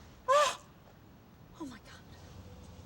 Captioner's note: gasps